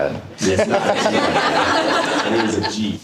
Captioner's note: audience laughter